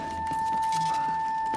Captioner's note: clatters